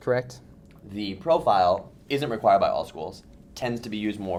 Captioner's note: voiceover